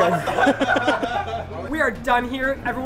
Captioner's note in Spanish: Risas